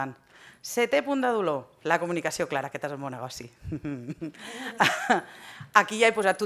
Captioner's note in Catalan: riures